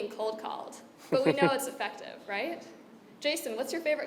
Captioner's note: laugh